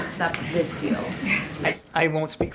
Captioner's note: laughter